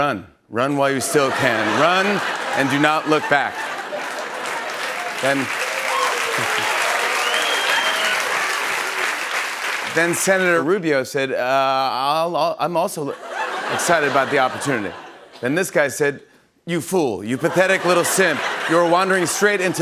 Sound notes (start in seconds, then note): 1.0 laughter; 4.9 cheers and applause; 13.1 laughter